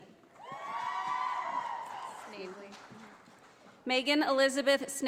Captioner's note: audience applauding